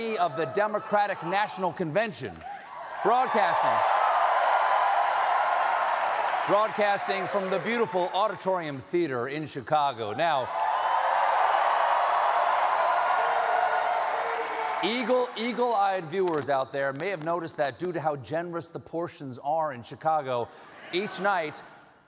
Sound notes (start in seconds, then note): 4.7 cheers and applause